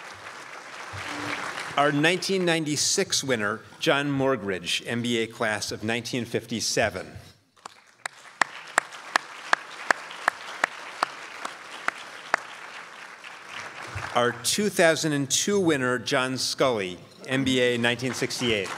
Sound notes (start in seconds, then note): 7.6 crowd applauds